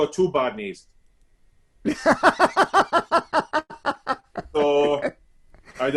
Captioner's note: laughs loudly